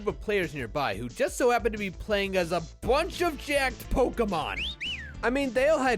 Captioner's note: whistles